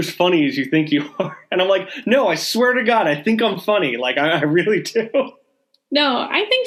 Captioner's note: laughing